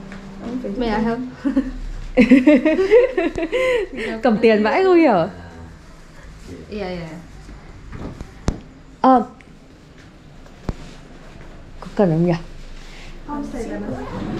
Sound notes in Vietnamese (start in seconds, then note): 2.1 Tiếng cười